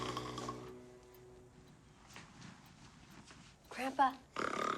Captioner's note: Sam snoring